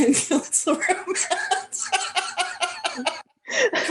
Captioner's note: laughter